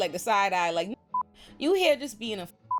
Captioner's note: beep; beep